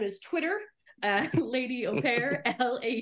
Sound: laughing

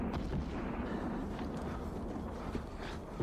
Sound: panting

